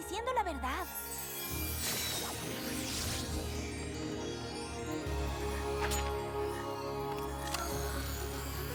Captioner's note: whoosh